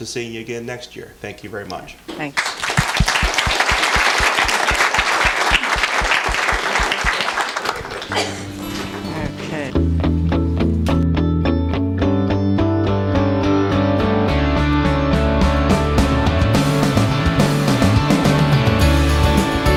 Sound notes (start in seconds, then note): 2.3 applause; 7.9 closing music